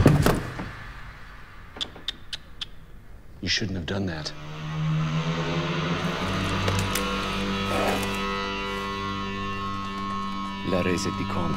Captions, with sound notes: (gun fires) You shouldn't have done that. (electric guitar plays)